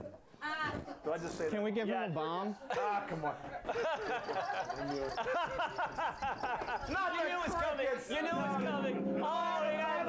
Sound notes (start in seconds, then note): 7.7 crickets chirping; 8.1 laughter